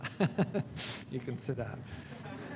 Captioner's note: laughing